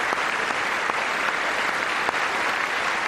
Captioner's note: applause